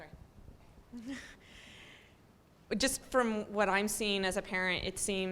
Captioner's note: laugh